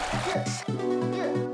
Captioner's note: babbling stream